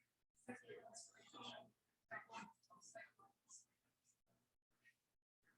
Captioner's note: people chattering indistinctly